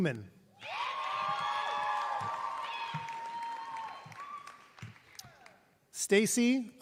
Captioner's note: applause